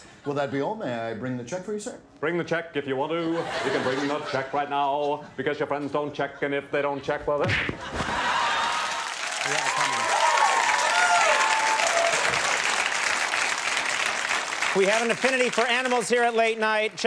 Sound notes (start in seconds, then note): 8.3 audience applauding; 11.0 audience applauding